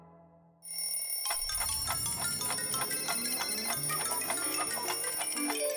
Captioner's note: clock sounds